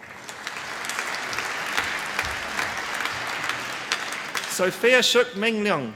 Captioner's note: applause